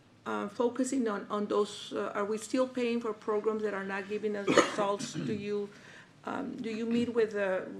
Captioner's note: clears throat